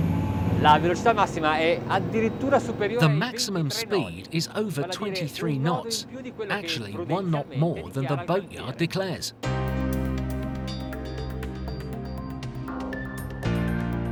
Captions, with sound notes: (speaking foreign language) The maximum speed is over 23 knots. Actually, one knot more than the boatyard declares. (relaxed electronic, piano music)